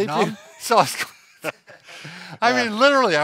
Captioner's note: laughing